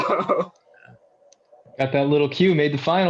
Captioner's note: laughter